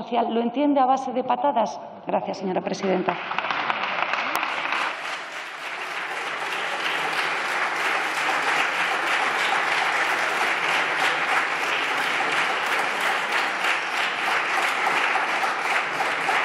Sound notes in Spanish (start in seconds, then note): 9.2 Aplausos